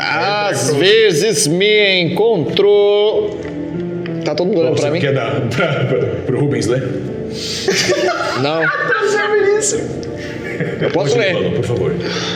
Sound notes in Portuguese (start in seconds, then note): 7.6 risadas